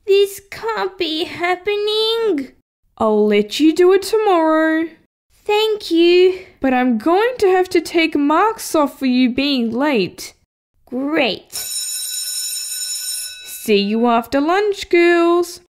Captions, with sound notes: This can't be happening! I'll let you do it tomorrow... Thank you ...but I'm going to have to take marks off for you for being late Great! (School bell) See you after lunch girls